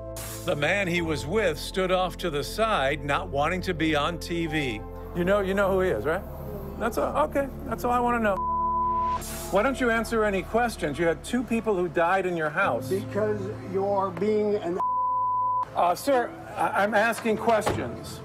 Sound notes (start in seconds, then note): 8.3 beep; 14.8 beep